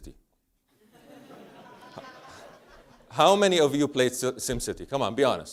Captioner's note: laugh